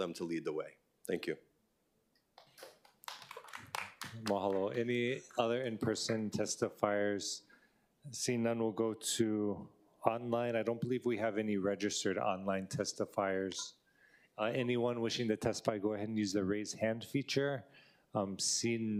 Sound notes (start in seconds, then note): 5.5 applause